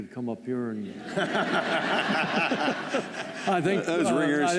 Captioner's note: laughter